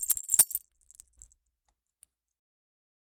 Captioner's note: Bentley's harness jingles